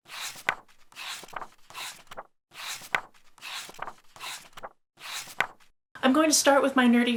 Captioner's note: pages turning